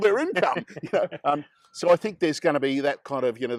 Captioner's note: they laugh